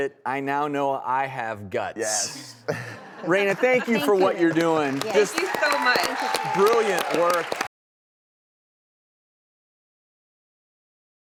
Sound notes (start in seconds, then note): 2.1 laughing; 9.5 clapping